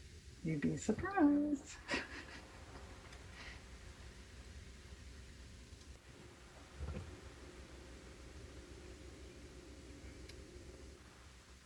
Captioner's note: laughs